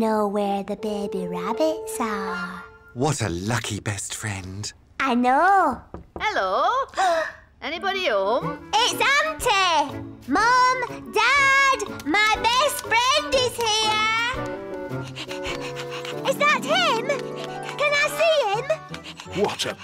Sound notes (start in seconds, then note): 5.9 knock at door; 14.8 pants